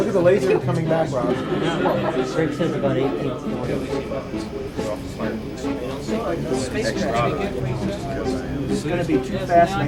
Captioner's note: lots of chatter